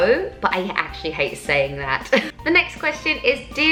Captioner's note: laughs